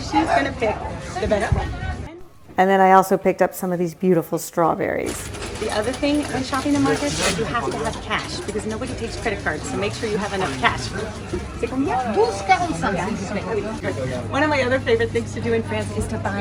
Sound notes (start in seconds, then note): 11.6 speaks French; 12.4 vendor speaks French